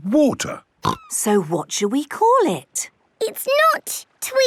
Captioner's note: snorting